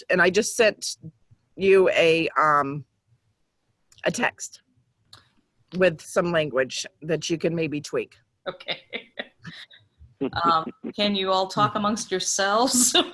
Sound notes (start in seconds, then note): 10.2 laughs; 12.9 laughing